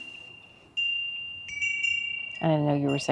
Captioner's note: chimes ring